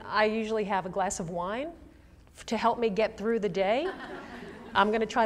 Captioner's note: laughter